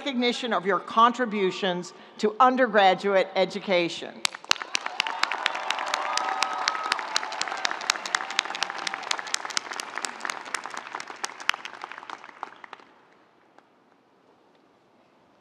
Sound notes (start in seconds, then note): 4.3 audience applauding; 4.5 audience cheering